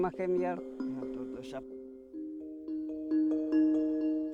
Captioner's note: continues speaking Yanomami; villagers speaking Yanomami